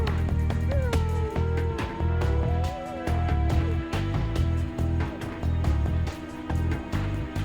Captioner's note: howling